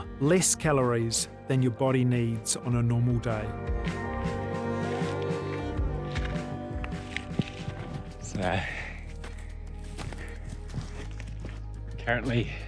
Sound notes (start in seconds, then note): 4.1 runner panting; 4.8 footsteps crunching; 9.9 runner panting; 10.0 footsteps crunching